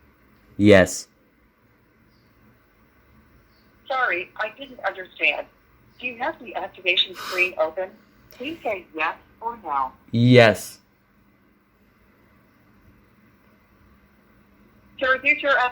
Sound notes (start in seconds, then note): 7.1 giggles